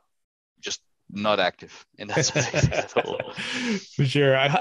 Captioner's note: laughter